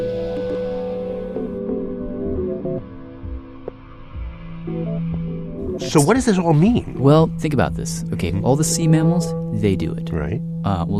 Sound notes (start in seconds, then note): none